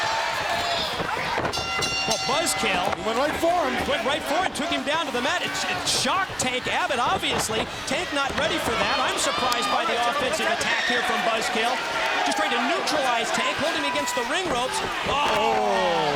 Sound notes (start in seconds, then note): 1.5 bell ringing